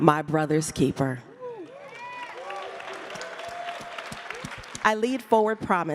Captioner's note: crowd cheering